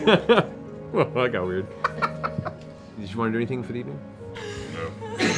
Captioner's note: laughs